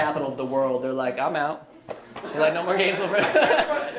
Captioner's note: laughs